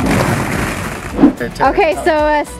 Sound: balls falling

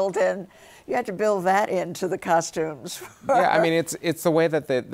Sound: laughs

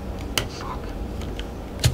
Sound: whispering

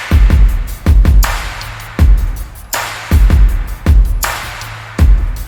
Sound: applause

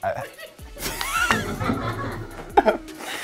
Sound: laughing

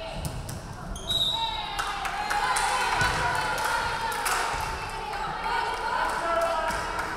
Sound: referee whistling; crowd clapping

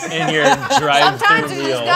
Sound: laughs

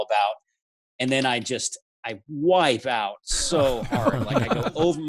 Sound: laughs

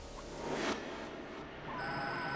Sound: beeping

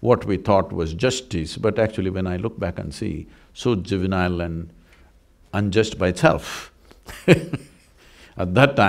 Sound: laughs

